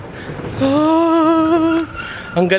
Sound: screams magically

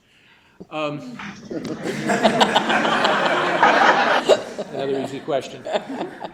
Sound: laughter

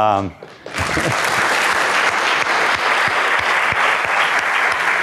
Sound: students applaud

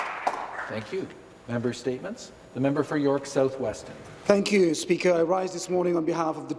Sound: applause

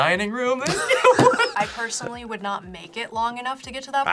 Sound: laughs

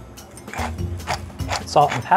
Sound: shaker grinding

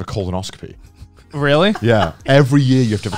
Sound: laughing

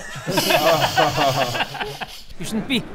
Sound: laughing to hide the pain

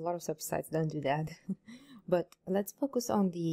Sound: laughs

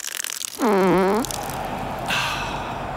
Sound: passes gas

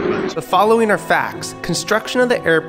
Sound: voiceover

